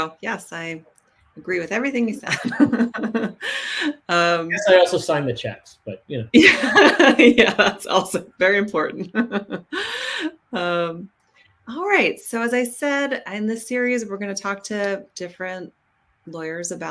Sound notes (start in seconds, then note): 4.5 laughs; 10.3 laughs